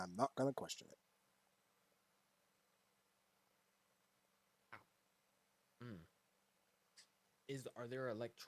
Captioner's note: silence